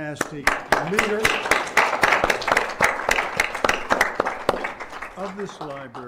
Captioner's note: applause